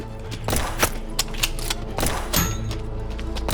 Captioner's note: gun firing